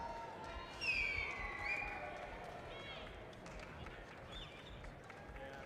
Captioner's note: audience member whistles